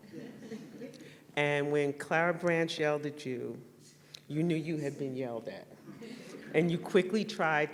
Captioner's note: laughter